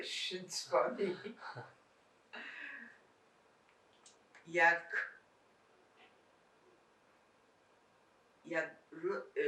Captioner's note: laughing